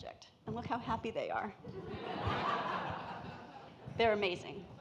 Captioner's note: audience laughing